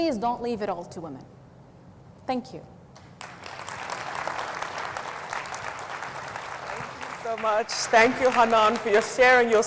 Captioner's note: audience applauds